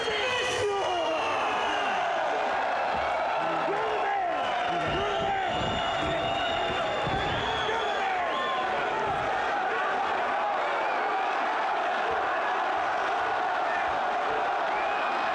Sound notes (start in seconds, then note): 1.6 crowd cheers